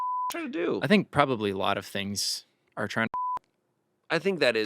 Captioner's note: beep; beep